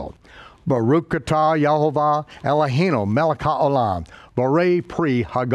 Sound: speaks in a foreign language

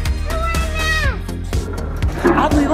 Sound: screams

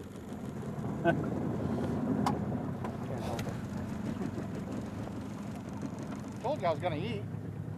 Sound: chuckling

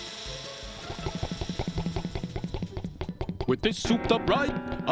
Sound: machine sputtering

